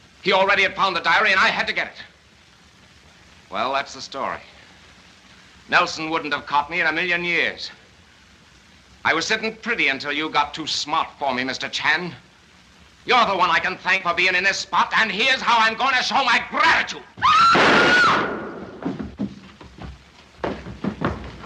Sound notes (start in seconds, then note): 17.1 screams; 17.5 gunshot